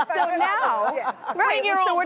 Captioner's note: laughing